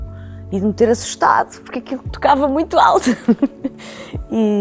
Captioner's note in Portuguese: risos